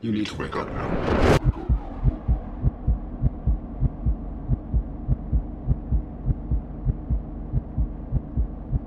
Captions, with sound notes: You need to wake up now. (heart beating) (eerie music)